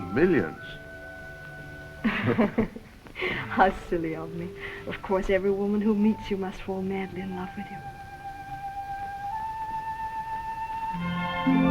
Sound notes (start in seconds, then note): 2.0 both laugh; 8.7 romantic music